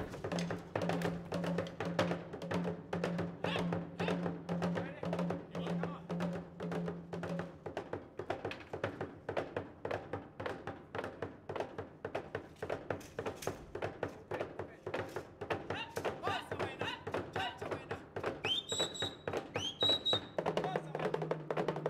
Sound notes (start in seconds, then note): 0.3 drums beating; 5.3 drums beating; 9.1 drum beating and spear tapping; 16.1 shouting and drum beating; 17.3 whistling and drum beating